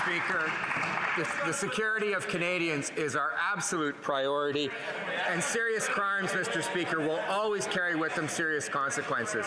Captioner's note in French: voix de l'interprète